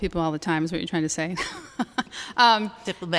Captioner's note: laughter